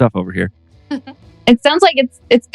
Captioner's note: laughs